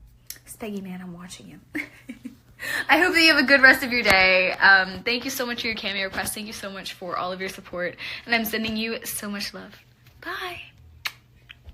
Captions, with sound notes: SpeggiMan, I'm watching you. *heart-melting laugh* I hope you have a good rest of your day, um, thank you so much for your Cameo request, thank you so much for all your support, and I'm sending you so much love. Bye! *blows kiss*